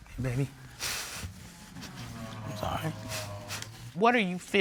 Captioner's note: sobbing